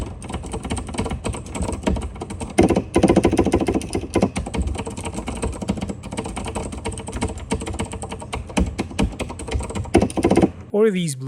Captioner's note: sound testing